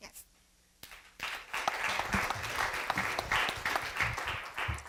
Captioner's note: applause